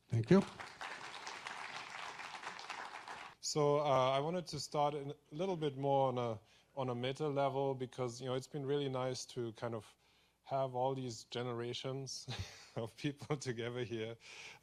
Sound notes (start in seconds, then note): 0.3 audience applauds